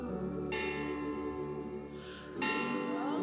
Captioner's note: bell tolls